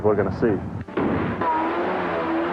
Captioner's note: engine revving; gunshot firing